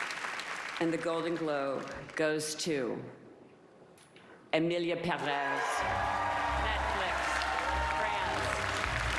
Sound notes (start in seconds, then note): 3.2 applause